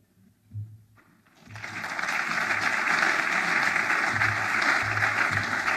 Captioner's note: audience applauds